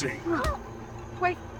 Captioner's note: punch thudding